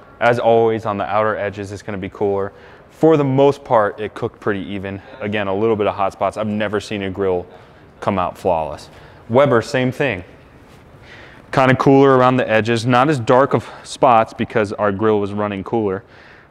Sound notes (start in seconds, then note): none